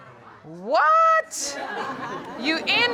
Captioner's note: audience laughs